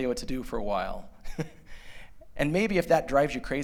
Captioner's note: laughter